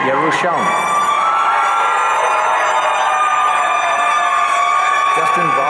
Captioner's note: audience cheering